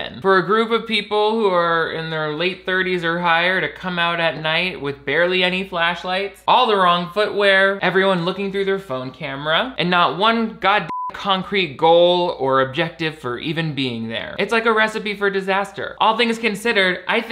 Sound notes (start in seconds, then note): 10.8 beep